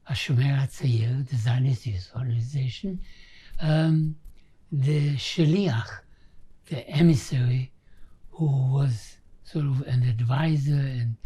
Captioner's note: hebrew